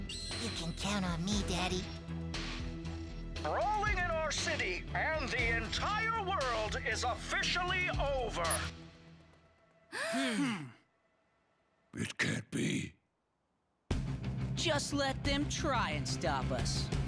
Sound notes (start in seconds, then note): 9.9 Mia gasping